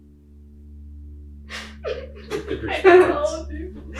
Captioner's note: group laughing